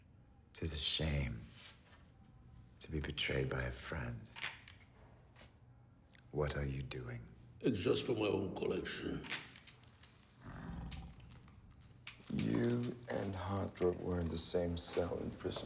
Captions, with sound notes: It is a shame, to be betrayed by a friend. (camera clicks) What are you doing? - Just for my own collection. (camera clicks) (Bjorn growls) - You and Hardrup were in the same cell in prison, right?